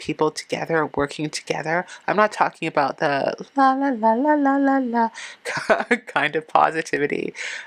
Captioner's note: laughing